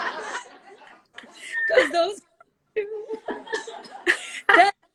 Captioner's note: all laugh; all laugh